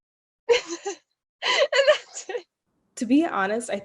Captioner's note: laughing